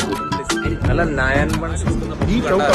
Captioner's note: crowd opine